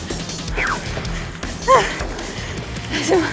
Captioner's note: catching her breath